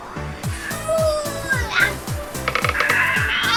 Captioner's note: straining